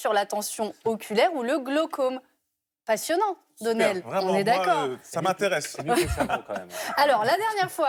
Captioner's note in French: rires